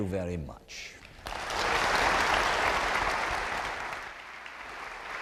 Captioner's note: applause